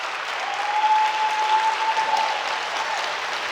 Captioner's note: cheering